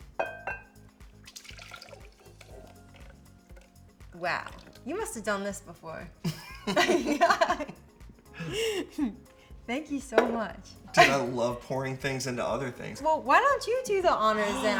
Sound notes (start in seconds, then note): 0.0 bowl clinks; 1.0 mixture burbles; 1.5 bright music; 6.2 both laugh